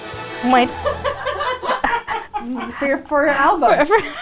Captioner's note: people laughing; laughing